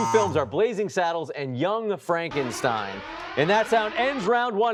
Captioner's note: alarm blaring